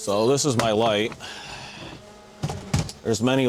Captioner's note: sighs